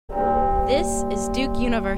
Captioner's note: bell tolls